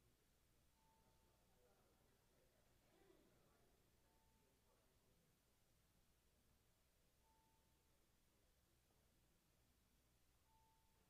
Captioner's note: bells ringing